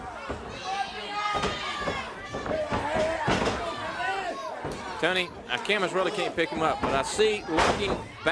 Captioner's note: crowd chatter